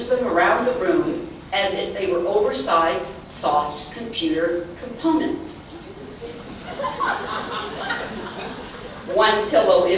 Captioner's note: laughter